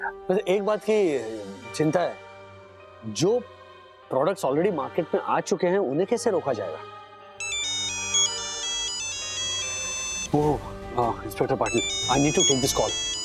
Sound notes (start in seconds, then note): 7.4 phone ringing